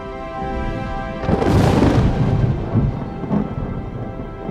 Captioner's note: thunder crashes